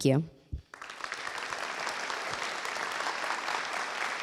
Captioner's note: applause